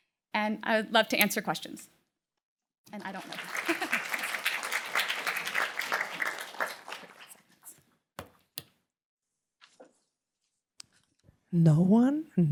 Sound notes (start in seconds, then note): 2.9 applause